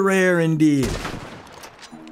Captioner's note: gunshot